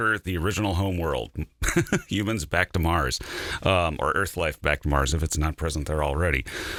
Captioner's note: laughter